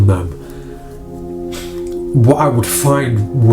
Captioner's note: sighs